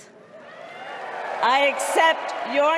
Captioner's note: crowd cheering